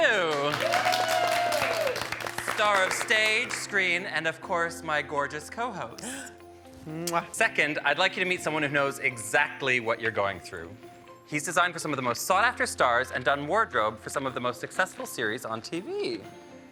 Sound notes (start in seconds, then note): 0.0 all applauding; 6.0 gasps and smacks lips